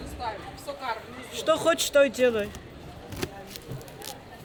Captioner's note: speaking Russian